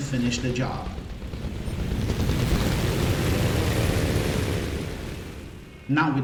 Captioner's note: aircraft Engines ,Gunfire, Flying Sounds